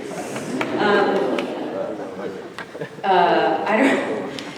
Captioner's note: audience laughing